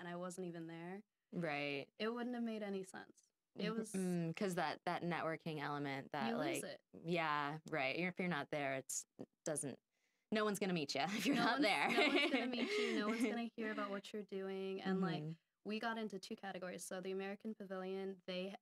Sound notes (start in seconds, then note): 11.3 laughing